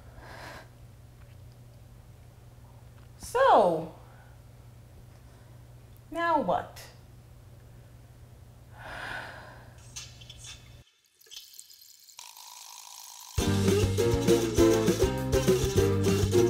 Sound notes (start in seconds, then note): 8.8 sigh; 13.4 theme song